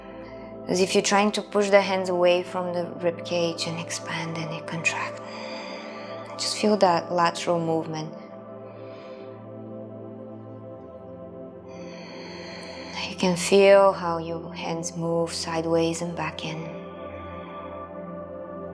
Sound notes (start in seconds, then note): 5.2 breathes deeply